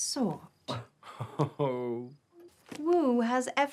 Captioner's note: Ewald laughs